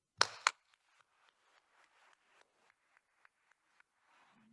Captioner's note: attendees applauding